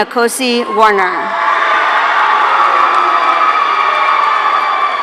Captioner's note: audience cheering